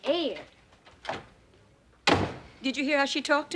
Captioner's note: door closing